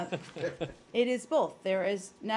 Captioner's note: laughter